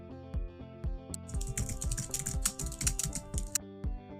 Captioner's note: soft ambient music; keyboard clanking continues; soft ambient music continues